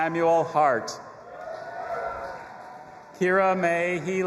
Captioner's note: audience applauding and cheering